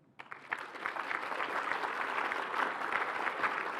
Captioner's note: applause